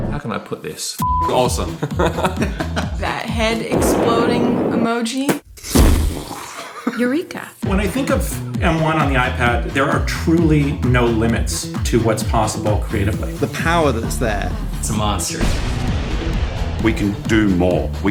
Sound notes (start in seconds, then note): 1.7 laughter; 5.2 mimicking explosions